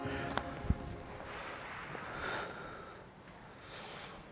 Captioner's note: deep breath